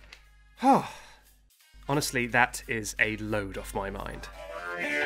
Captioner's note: exhale